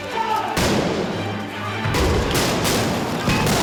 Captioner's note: explosions